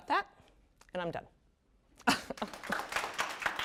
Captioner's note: laughs; applause